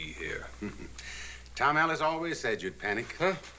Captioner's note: chuckles